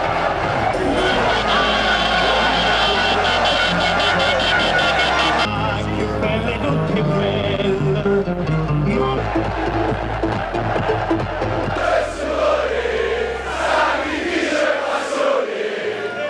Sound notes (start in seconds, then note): 2.3 horns beeping; 12.0 fans chanting